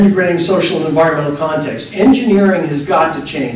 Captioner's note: laughter